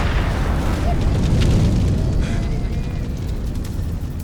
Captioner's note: flames crackling; ominous music